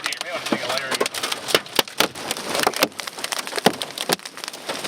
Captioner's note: hail pattering